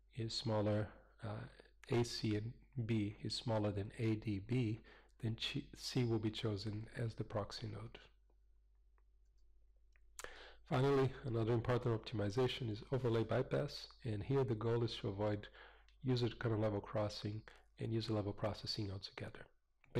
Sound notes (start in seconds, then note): 8.1 pause